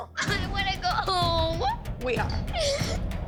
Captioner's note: crying